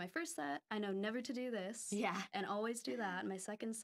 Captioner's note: laughing